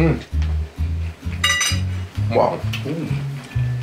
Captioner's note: metallic clinking